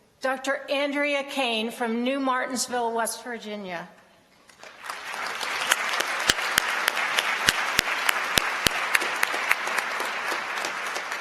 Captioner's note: applause